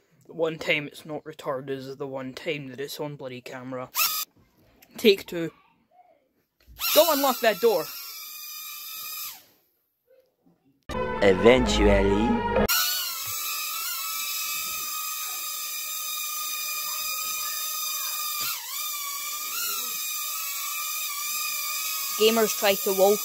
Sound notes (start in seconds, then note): 11.7 loud wurring